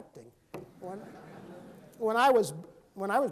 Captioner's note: laughing